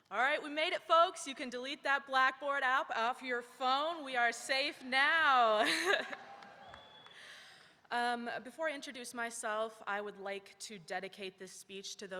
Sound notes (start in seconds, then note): 5.6 laughs; 5.9 audience cheering